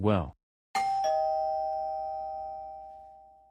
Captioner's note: doorbell